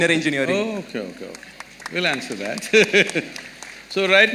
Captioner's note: laughs